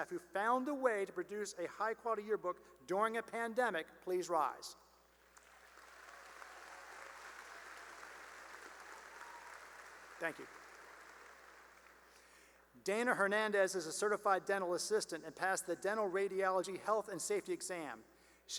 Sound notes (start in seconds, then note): 5.3 cheering and applause; 11.5 applause